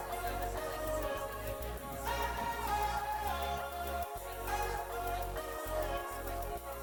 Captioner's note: upbeat music; students talking